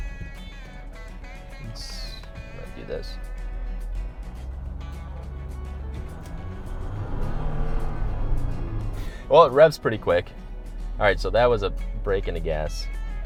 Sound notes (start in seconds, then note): 0.2 upbeat music; 6.1 car engine roaring; 6.1 upbeat music